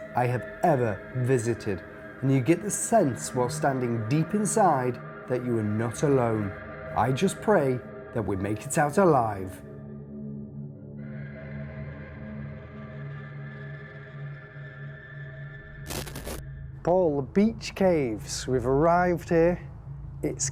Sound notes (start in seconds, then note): 9.9 eerie music; 15.8 static